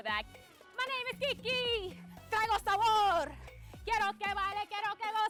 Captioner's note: speaking Spanish